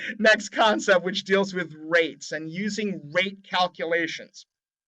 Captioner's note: laughs